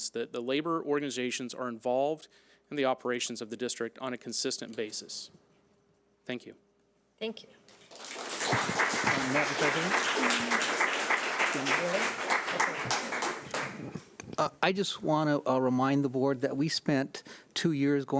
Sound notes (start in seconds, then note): 7.8 audience clapping; 9.8 clapping drowning out speaking